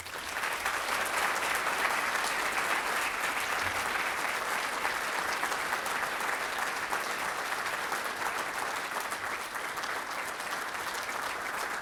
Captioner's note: applause